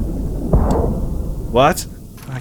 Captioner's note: boom